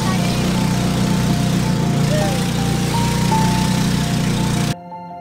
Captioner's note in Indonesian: Suara mesin